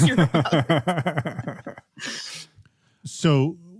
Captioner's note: laughing